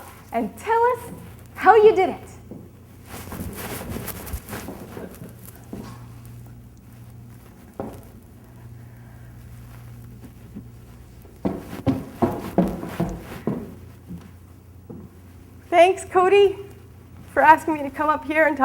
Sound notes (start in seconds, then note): 3.3 light shuffling; 11.7 footsteps clacking